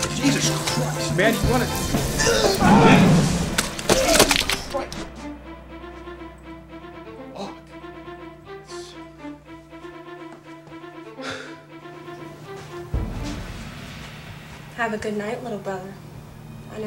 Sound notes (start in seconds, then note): 2.2 screams